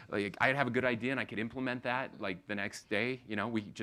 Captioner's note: none